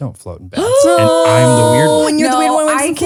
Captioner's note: moan